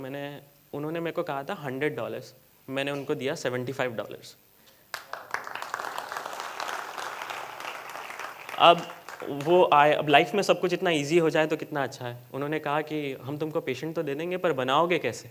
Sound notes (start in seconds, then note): 4.8 applause